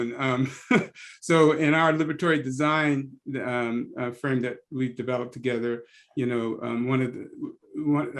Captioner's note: laugh